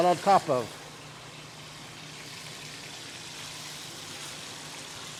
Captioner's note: chicken sizzles